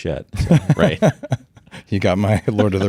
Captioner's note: both laughing